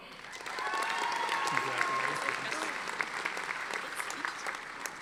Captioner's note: audience applauding